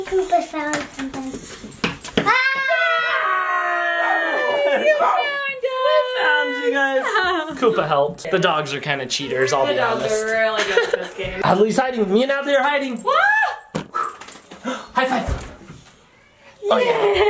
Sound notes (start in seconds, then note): 2.2 joyous yelling; 2.5 dog barking